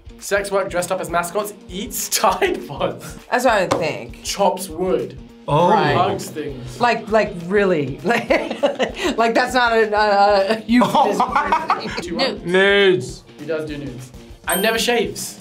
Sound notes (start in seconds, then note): 8.0 laughs; 10.4 laughs